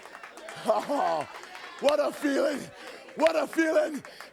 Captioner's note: laughs